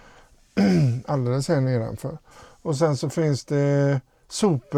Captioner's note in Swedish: harklar sig